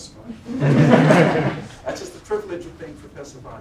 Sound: laughter

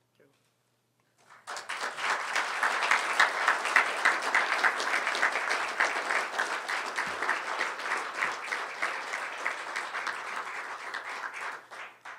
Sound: applause

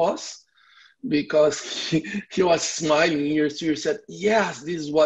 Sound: giggles

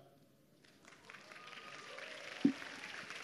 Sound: applause

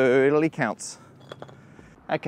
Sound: final brick clunks

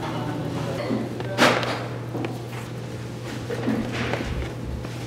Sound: container scraping

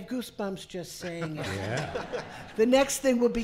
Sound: laughing

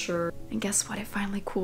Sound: whispering

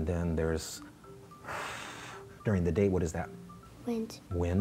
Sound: blow winds

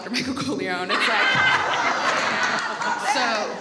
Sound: all laugh

